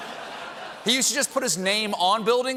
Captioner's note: laughter